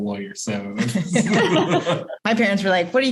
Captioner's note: laughter